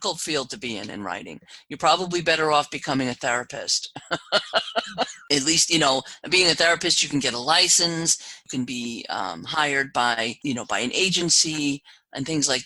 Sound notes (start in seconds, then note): 3.9 laugh